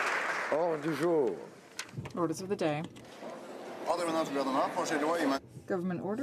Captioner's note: applause